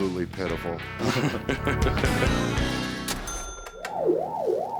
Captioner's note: laughter; video game music